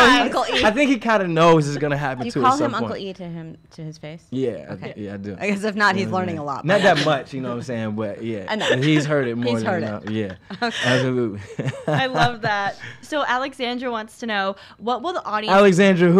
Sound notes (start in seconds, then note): 11.2 laughs